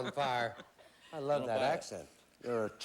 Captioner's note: regular voice